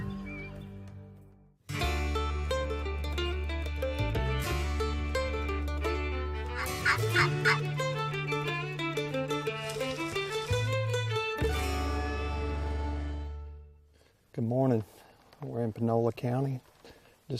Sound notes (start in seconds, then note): 1.7 country music; 6.5 turkey call yelps; 9.8 country music